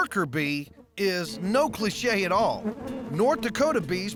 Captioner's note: bees buzzing